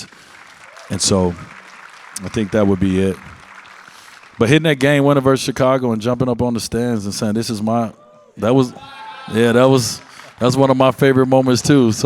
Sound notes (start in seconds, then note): 0.0 audience applauds; 8.7 audience member shouts